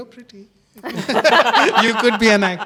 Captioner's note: all laughing